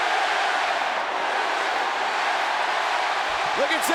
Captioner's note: audience cheering